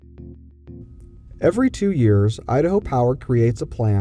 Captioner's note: voiceover